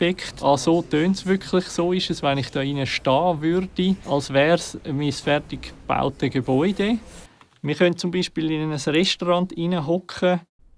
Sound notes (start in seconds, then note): 7.0 voices in a cafeteria in the background